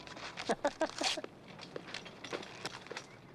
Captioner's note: laughing